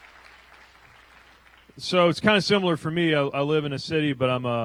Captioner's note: applause